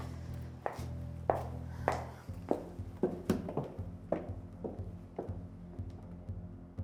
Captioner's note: heels clacking